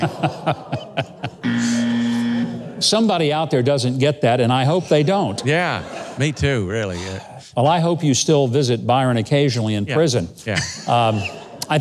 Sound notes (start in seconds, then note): 0.0 Huckabee laughs; 1.3 buzzer sounds; 10.5 laughs